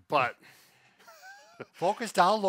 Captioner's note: laughs